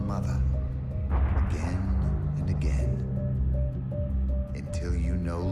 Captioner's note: gun fires